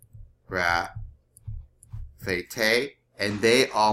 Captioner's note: speaking greek